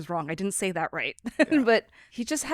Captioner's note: laughs